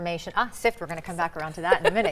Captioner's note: chuckles